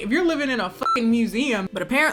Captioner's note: beep